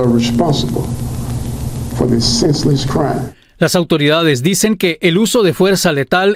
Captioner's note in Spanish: HABABLAN EN INGLéLÉS